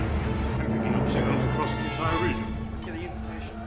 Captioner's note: indistinct chatter